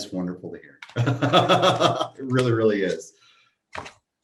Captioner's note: laughs